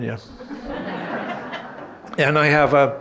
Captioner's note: audience laughing